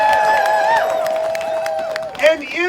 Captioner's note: audience cheering